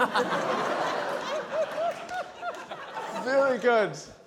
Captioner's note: laughter